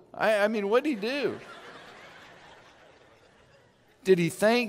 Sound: laughing

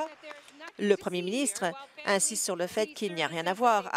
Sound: applause

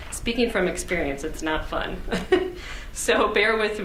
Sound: laughs

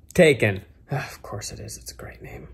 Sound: sighs

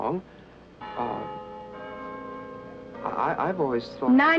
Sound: bells chiming

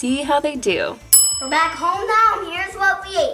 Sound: bell chimes

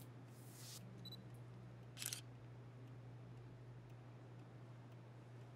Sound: camera shutter clicking

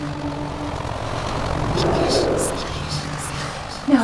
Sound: murk distorted scream

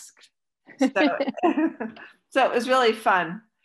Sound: laughs

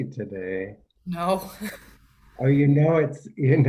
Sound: laughs

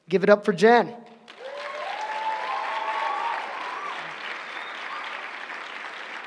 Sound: applause

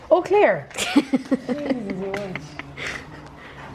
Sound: laughs

